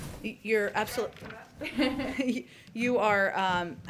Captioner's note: laughs